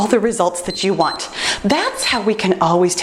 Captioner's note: timer beeps